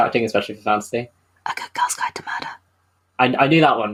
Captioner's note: whispers